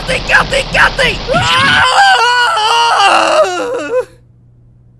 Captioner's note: screams!